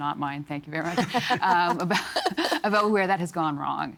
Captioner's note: all laughing